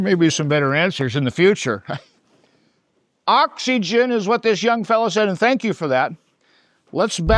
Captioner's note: chuckles